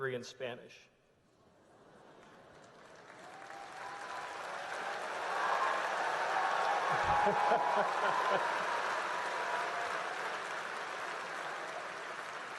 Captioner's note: applause